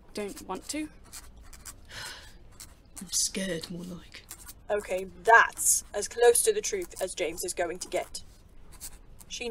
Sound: James breaths out

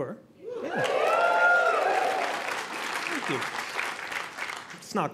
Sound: audience clapping

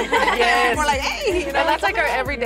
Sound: all laughing

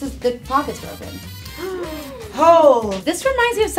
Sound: ladies gasp

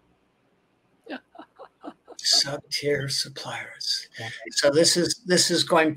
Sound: laughs

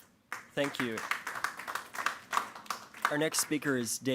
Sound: applause

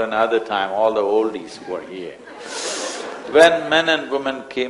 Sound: laughter

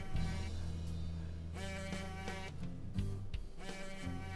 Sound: phone buzzing

